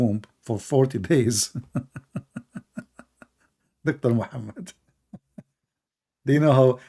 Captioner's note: Ketawa